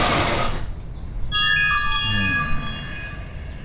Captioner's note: smart notification chimes